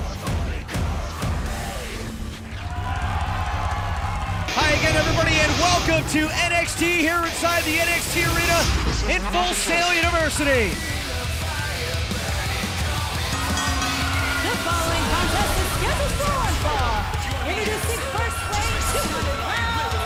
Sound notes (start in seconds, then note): 13.0 bell ringing